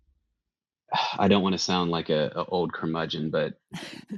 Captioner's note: sighs; chuckles